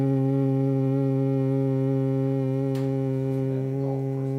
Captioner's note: humming sound